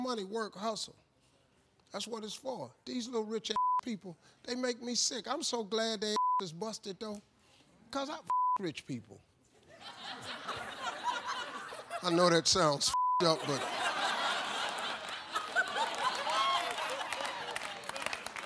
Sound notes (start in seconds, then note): 3.5 beep; 8.2 beep; 9.7 audience laughs; 12.8 beep; 13.3 audience laughing and applauding